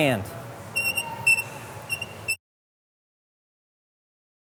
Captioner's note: squeaking noise